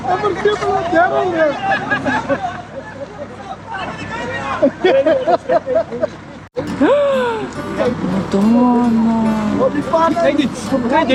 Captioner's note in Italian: Risate